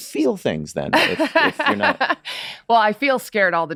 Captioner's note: laughs